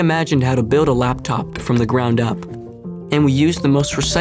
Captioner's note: knocks